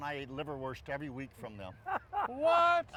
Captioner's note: laughs